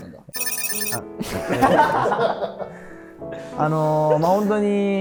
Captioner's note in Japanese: 一同・スタッフ：笑い